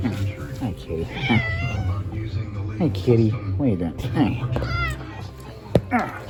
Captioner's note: meows